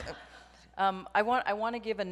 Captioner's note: audience laughs